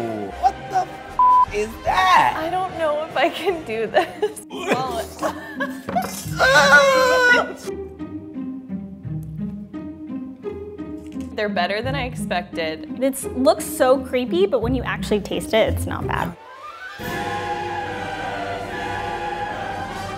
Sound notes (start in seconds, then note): 4.4 gagging; 6.2 yelling